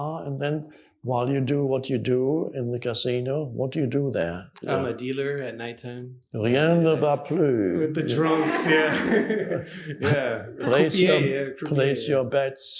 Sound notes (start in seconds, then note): 8.1 audience laughing